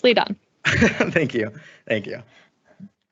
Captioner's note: laugh